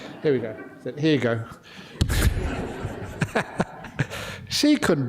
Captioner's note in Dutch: lachen